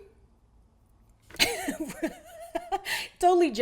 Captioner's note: laughs